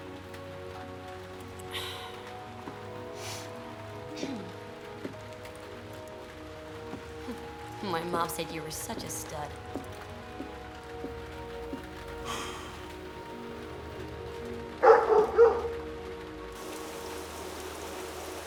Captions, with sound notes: [Laura clears throat] Huh! My mom said you were such a stud. [sighs] [barking]